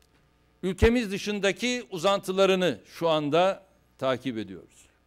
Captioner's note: non-english speech